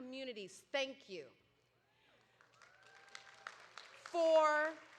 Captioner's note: audience applauding